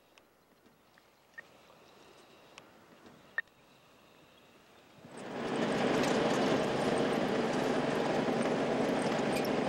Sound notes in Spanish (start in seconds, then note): 1.1 sonidos radioeléctricos; 7.4 sonido automotor